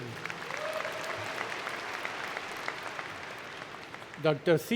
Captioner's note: applause